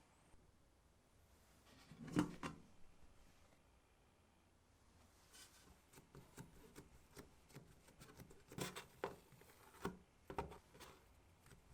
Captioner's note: folding